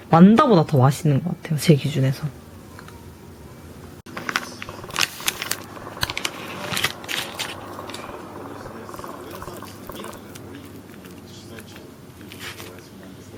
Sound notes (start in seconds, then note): 4.1 slurp